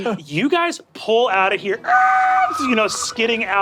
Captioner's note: mimics wheels screeching